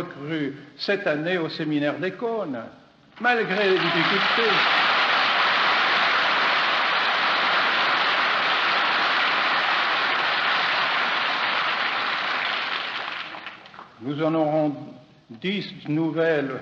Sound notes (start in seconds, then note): 3.6 applause